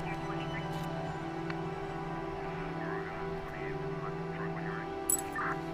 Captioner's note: police radio talking in background